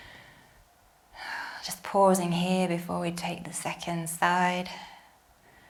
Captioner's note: exhales